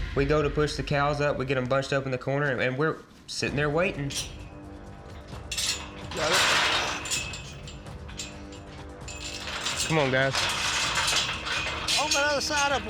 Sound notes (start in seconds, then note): 3.6 clanking sound